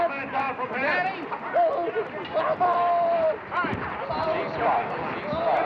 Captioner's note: Danny screaming; voice On Loudspeaker